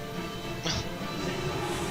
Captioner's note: chuckling